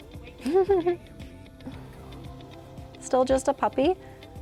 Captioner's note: laughs